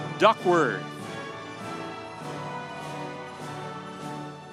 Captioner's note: audience cheering